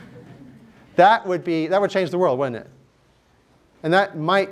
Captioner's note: laughter